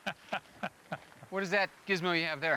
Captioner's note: chuckles